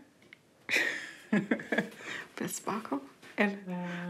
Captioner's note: laughs